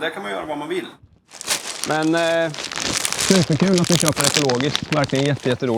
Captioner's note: the bag rustles